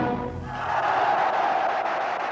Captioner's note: cheering